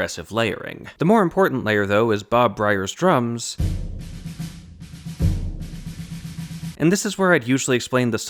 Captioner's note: bang